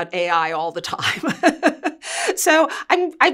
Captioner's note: laughing